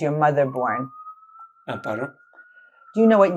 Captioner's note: sirens